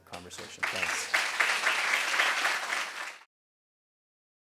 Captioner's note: applause